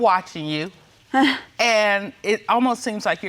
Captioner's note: winning chuckles